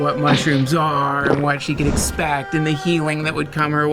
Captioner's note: gulp; poof